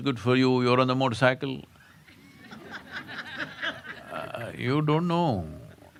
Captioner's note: laughter